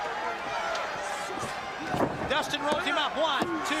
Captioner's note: crowd chatter